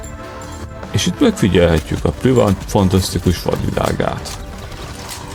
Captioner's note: in a narrator voice